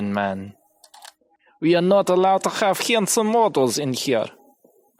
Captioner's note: Russian accent